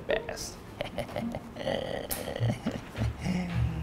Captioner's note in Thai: หัวเราะ